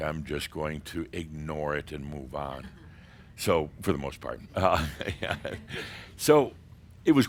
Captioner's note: Adamus chuckles